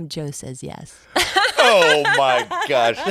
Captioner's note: laughs